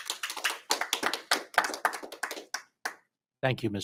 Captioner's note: audience applauding